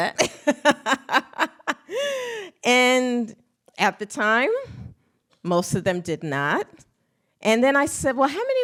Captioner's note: laughs